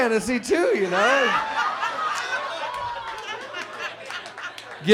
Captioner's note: audience laughs